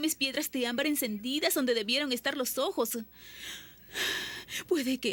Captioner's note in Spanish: suspiro